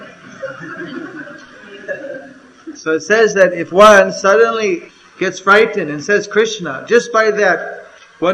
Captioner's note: laughter